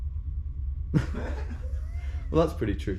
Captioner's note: all laughing